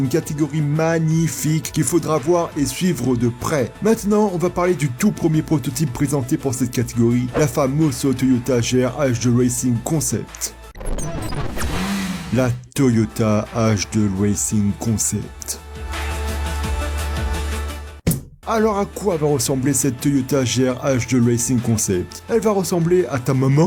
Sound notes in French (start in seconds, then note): 15.9 clap